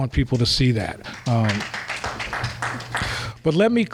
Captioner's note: applause